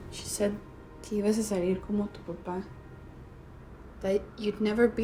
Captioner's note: speaking spanish